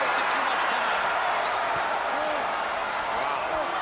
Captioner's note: crowd cheering